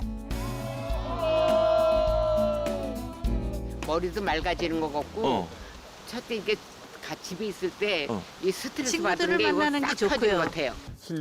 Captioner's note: voiceover